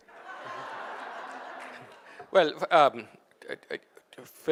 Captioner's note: audience laughing